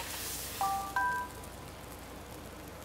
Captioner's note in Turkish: Mesaj sesi